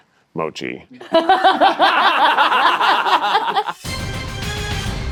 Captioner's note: all laughing; dramatic music